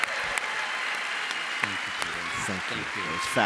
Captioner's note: applause